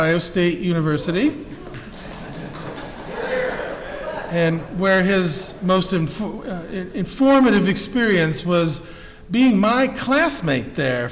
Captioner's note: applause interrupts speech